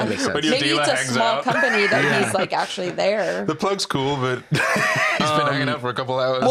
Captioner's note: laughs